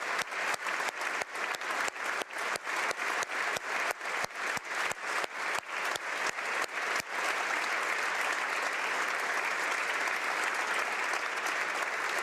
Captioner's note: applause